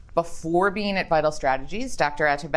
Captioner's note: none